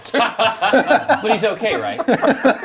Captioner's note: group laughs